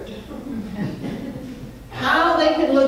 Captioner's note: crowd laughing